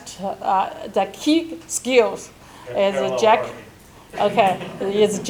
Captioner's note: murmurs